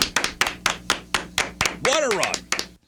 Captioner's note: clapping